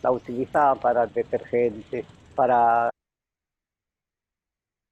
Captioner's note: speaks in foreign language